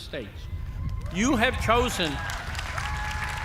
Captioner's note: cheers and applause